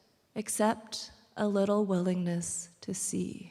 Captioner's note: none